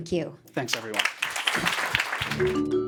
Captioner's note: applause